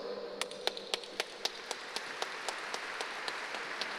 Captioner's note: applause